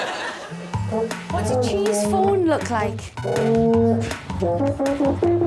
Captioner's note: phone buzzing; plays horn